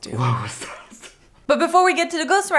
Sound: laughing

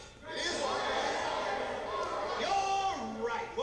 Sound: crowd shouting

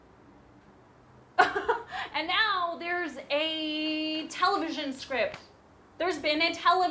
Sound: laughs

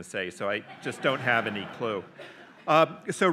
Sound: audience laughs

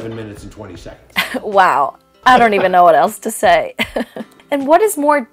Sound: laughs

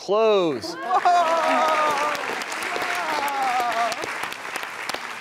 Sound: audience clapping

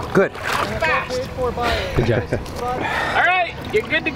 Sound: male Voice

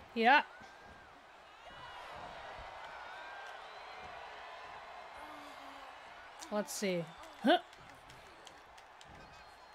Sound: applause

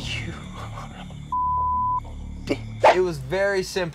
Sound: sighs; whispering

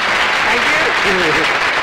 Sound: applause

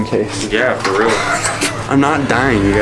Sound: laughs

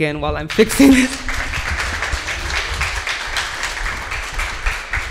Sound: audience applauding

